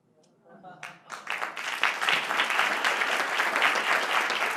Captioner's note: applause